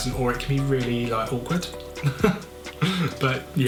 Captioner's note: laughs